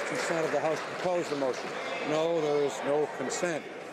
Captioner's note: some Applause